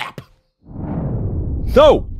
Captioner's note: air swooshing